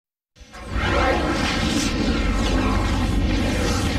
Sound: dramatic twister and helicopter sounds

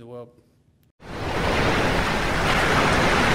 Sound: waves

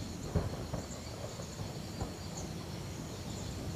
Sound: thunder

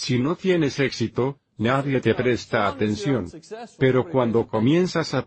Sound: laughs

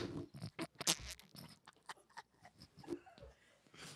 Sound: both laughing

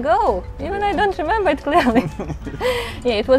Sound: laughs

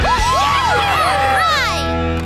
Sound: cheering

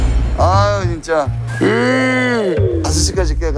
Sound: yawns

